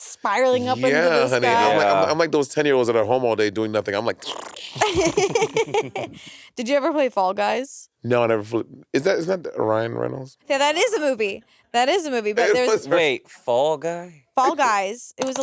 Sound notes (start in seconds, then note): 4.7 laughing; 5.2 Monét imitating video game sound effects